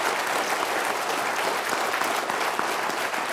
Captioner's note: applause